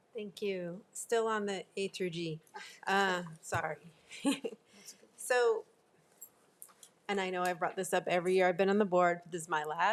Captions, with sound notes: - Thank you. Still on the A through G. Sorry. (laughs) - That's okay. - So, and I know I've brought this up every year I've been on the board.